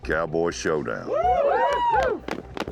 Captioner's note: all cheering, clapping